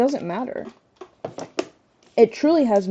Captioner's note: shuffling things around